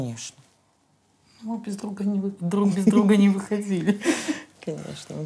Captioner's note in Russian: смеются